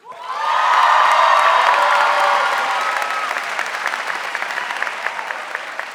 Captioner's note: audience applauding and cheering